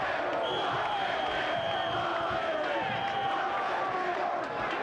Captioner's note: crowd chanting; whistle blowing